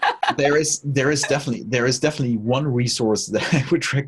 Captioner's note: host laughs